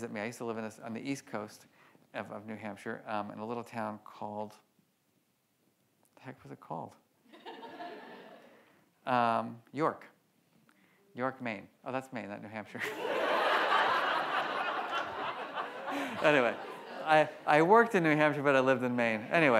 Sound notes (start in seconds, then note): 7.4 audience laughs; 12.8 audience laughs; 12.9 laughs